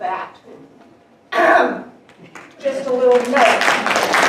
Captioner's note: coughing; audience applauding